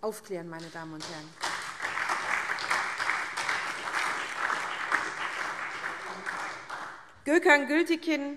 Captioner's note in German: Beifall SPD und Freie Demokraten